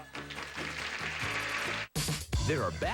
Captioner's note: audience applauding